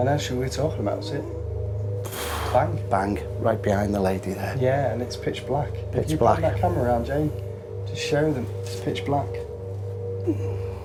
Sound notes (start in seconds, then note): 2.2 loud bnang